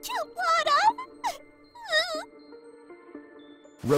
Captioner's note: sobbing